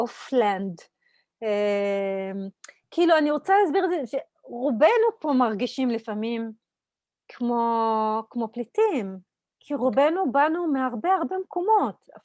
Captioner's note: Hebrew